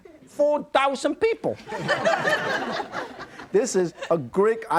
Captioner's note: audience laughing